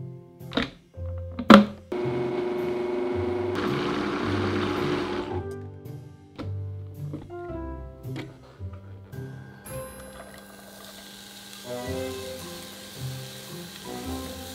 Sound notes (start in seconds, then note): 1.9 blender running; 9.7 oil sizzling